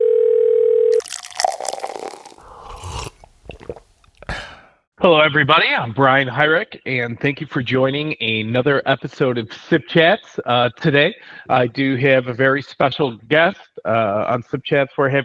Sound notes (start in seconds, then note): 0.0 phone ringing; 0.9 liquid pouring; 2.5 soft sipping; 4.1 person sighs